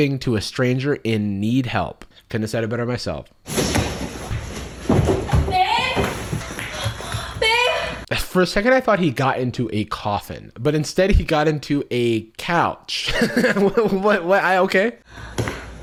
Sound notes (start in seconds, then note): 3.5 shuffling; 12.9 laughing